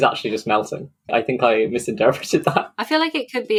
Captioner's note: laughs